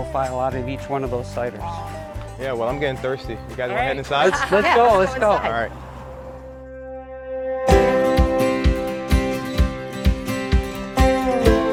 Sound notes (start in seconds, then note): 3.0 laughing; 7.8 bright music